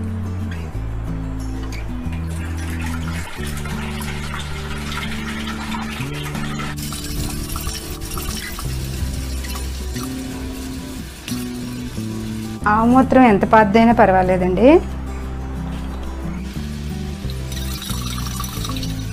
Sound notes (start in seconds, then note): 2.0 water pouring SOUND; 16.4 water pouring SOUND